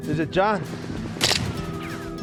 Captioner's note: gunfire